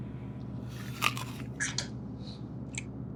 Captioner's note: munching